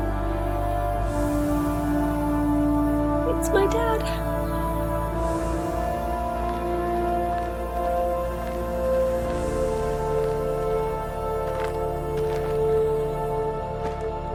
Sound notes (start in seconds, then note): 4.2 gentle music continues; 8.4 footsteps crunching